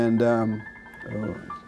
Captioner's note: cell phone ringing